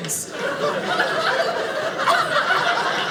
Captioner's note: audience laughing